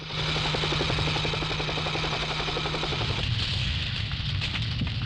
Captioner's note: plane engine rumbling